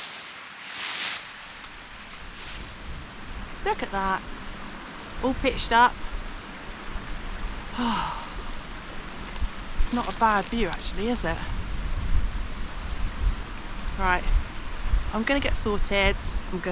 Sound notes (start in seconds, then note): 7.7 happy sigh